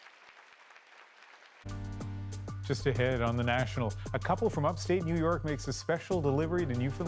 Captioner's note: applause